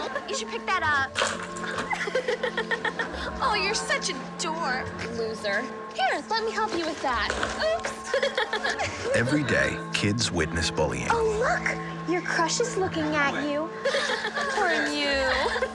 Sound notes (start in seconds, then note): 1.7 mean laughing; 7.8 laughing